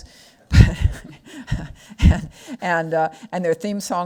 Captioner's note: laughs